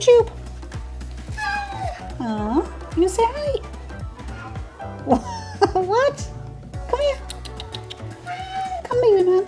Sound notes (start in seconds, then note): 6.8 laugh